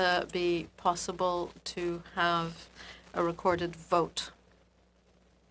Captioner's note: speaking French